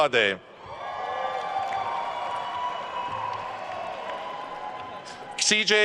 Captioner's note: attendees cheering and applauding